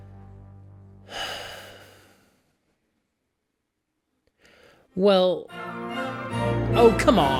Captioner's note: sighs, long pause